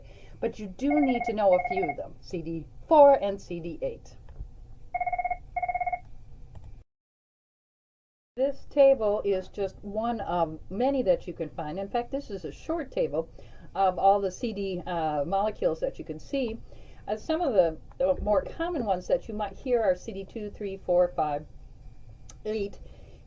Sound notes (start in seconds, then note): 4.9 phone rings